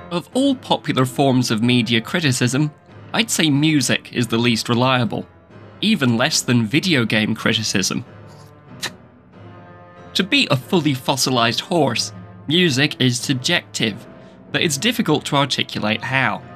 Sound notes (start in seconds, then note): 8.7 spit